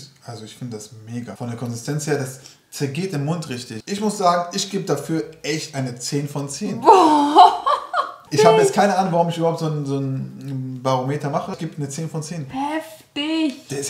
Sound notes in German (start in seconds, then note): 6.6 lacht